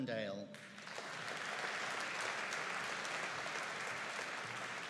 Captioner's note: audience applauding